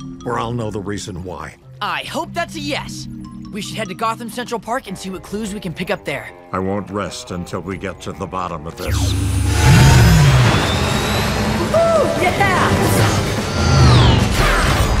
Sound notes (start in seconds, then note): 8.9 whooshes; 13.1 engine accelerating